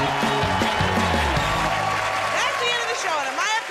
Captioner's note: cheers and applause